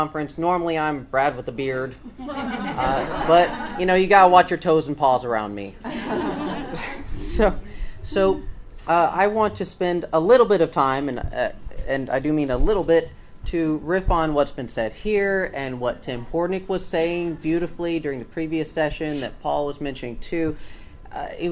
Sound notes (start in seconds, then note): 2.2 audience laughs; 5.9 laughs; 6.1 audience laughs